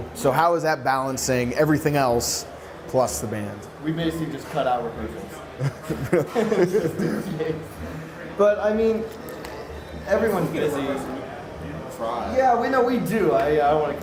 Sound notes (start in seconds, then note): 5.6 laughs